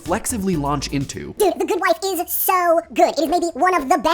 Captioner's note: sped up in high pitch